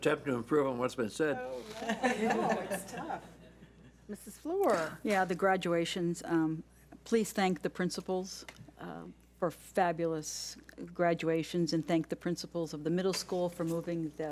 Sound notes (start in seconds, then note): 1.7 laughs